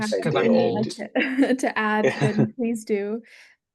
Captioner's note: laughs